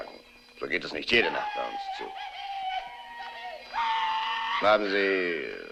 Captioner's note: hollering